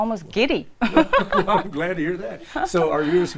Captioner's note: laugh